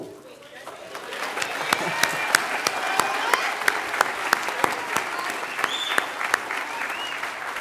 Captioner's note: applause